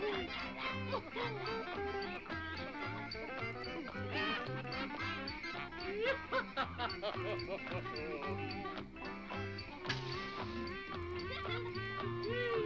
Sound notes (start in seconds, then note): 5.3 Dunderklumpen laughs; 9.3 match hisses; 10.4 toys whooping; 11.2 doll laughs